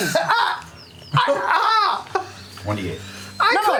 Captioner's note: yelling